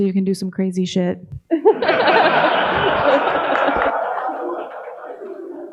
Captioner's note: audience laughing